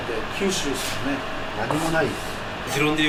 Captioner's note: laughs